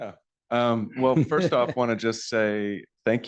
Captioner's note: laughter